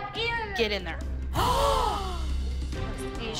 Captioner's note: gasping